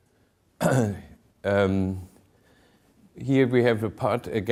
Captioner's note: clears throat